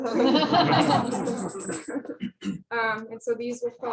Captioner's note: laughter